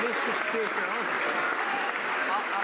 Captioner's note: some Applause